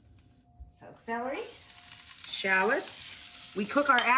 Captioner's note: pan sizzling